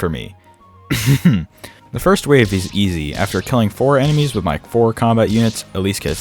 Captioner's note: cough